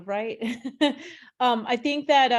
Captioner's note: chuckles